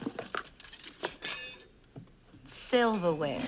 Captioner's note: metal clinks